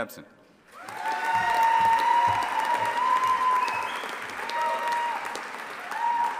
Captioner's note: audience applauding and cheering